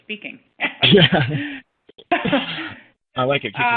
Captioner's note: laughs